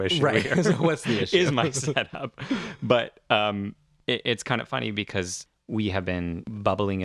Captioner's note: laugh